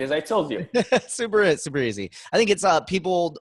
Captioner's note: laughs